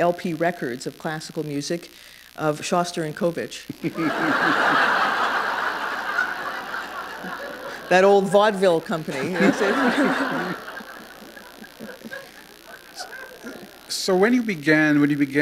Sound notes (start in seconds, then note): 5.8 laughter